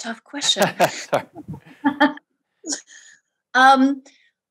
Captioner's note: both laugh